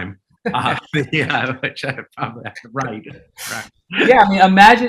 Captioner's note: chuckling